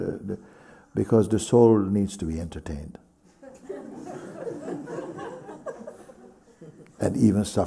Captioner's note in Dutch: gelach